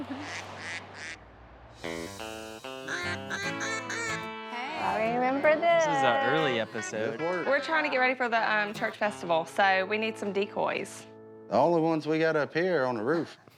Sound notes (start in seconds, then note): 0.0 ducks quacking; 1.8 upbeat music; 2.8 duck calls quacking